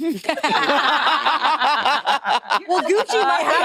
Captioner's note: participants laughing